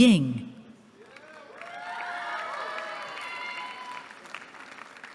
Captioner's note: cheering